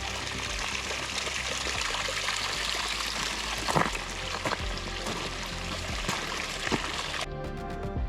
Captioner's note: water splashing